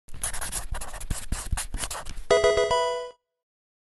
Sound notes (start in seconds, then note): 0.1 marker writing; 2.3 Pokemon game sound